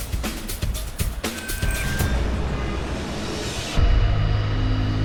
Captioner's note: woman speaking over PA